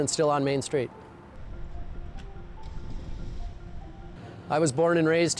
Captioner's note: air whooshing